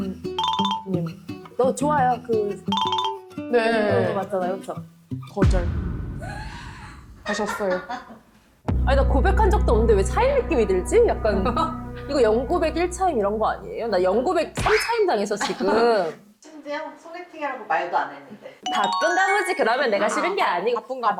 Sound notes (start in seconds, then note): 7.2 staff laughing; 14.6 that hurt a lot sound effect; 18.7 actually relieved sound effect